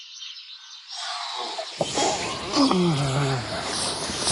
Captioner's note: birds chirping